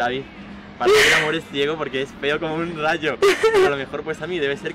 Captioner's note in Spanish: risas